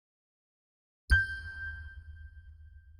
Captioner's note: ding